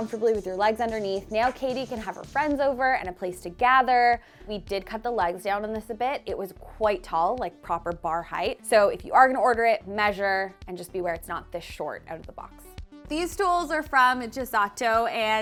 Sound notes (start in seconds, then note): none